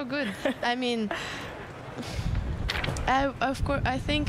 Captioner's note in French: laughter